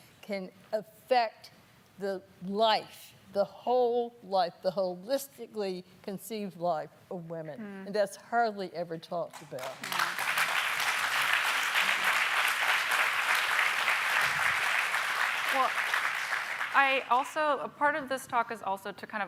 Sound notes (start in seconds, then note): 9.4 applauding